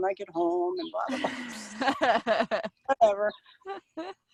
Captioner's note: laughing